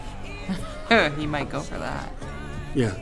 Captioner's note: chuckling